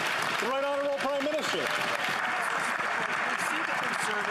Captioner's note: some Applause